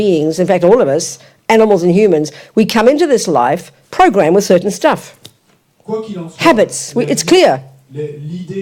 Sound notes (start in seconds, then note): 5.0 French